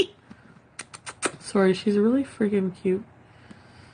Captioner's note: kisses